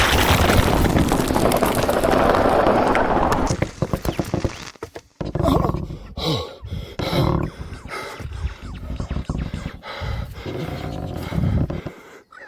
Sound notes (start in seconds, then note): 0.0 portal sound, rock crumbling; 4.9 wood creaking